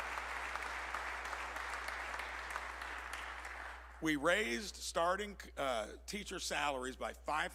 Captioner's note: applause